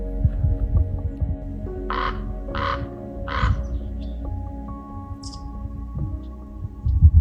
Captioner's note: raven calling and birds chirping